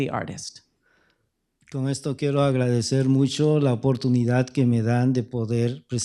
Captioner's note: speaking spanish